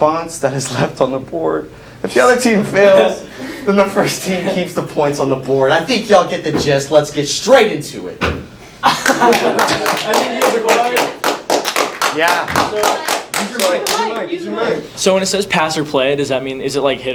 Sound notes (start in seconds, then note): 8.2 slam; 8.8 laughter and clapping; 11.4 clapping